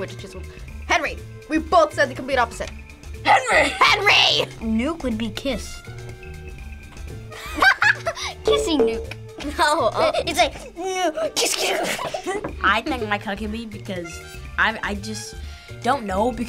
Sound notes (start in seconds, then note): 7.3 both laugh